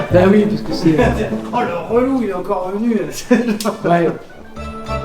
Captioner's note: laugh